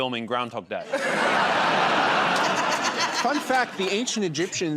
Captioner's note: laughter